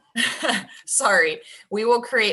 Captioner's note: laughs